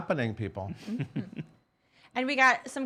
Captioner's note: snickers